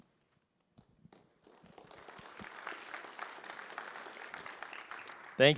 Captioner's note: applause